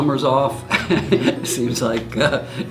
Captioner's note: laughs